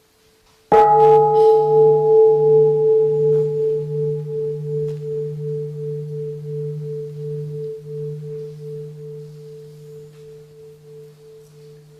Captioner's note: the bell is invited to sound